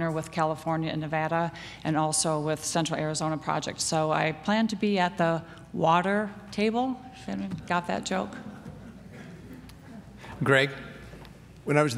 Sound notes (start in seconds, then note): 8.4 laughter